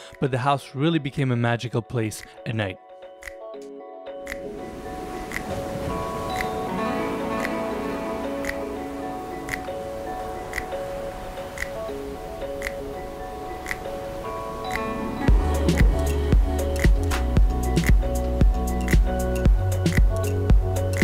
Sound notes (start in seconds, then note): 3.2 upbeat electronic music; 3.2 waves rolling